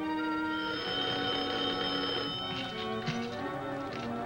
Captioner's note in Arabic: يرن الهاتف